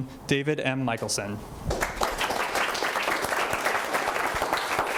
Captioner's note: audience applauding